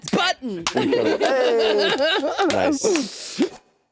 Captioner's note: all laughing